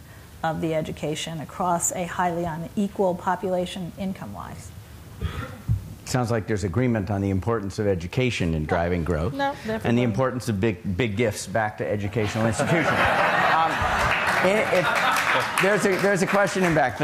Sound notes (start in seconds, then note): 12.1 laughter